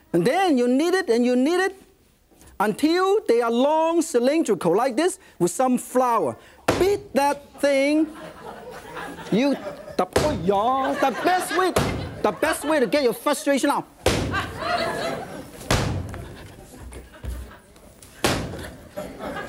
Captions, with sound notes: and then, you knead it and you knead it until they are long, cylindrical, like this? With some flour. (dough slaps against table) Beat that thing-- (audience laughs) You, dah, hi-yah! (audience laughs) The best way-- (dough slaps against table) The best way to get your frustration out. (dough slaps against table) (audience laughs)